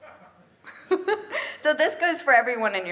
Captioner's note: laugh